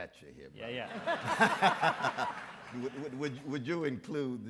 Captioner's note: audience laughs